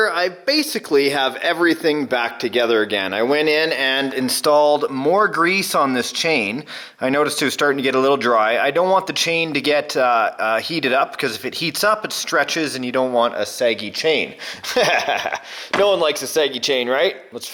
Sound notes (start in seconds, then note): 14.6 laughter